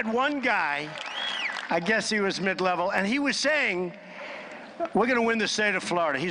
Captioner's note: applause